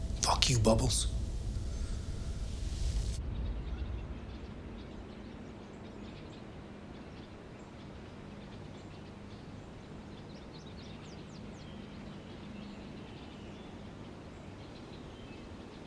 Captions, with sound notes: Fuck you, Bubbles. (birds chirping)